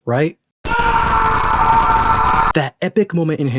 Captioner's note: screams of the unholy